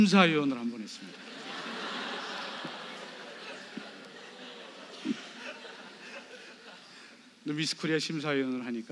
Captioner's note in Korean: 관객 : 웃음